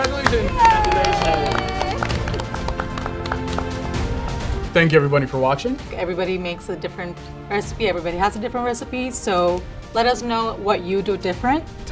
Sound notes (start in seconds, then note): 2.2 group applauds; 2.2 triumphant music